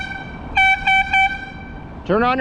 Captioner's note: air horn